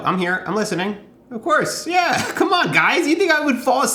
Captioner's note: chuckling